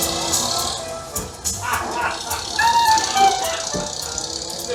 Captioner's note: motor car engine revs; hardcastle chuckles